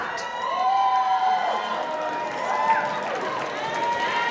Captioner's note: applause